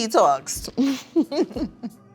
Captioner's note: laughing